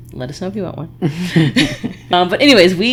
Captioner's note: laughing